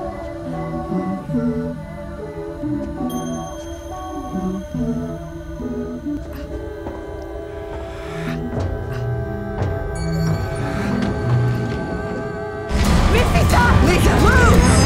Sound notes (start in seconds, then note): 10.1 elevator dings